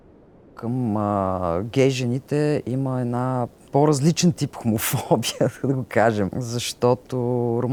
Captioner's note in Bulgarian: смее се